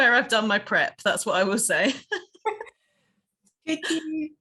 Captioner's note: both laughing